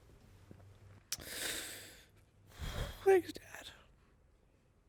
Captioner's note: respiring heavily